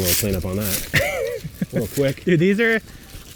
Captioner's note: laughing